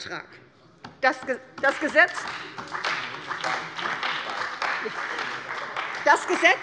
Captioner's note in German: Beifall bei der CDU und dem BÜNDNIS 90/DIE GRÜNEN